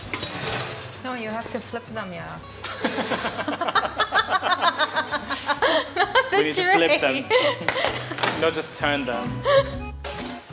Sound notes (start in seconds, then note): 2.9 laughs